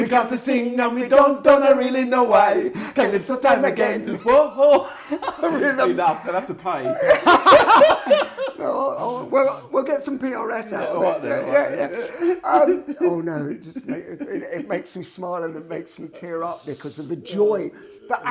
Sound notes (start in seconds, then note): 7.2 laughing; 10.8 laughing